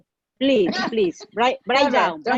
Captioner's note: laughing